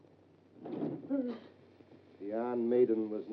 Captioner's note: June gasps